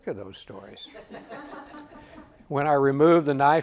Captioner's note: audience laughs